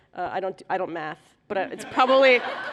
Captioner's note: laughter